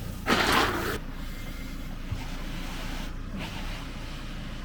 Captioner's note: shovel scraping